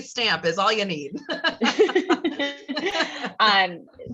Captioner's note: laugh